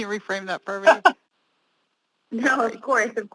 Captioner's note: laughter